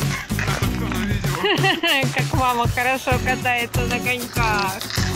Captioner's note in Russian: смех